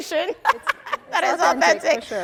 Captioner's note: laughing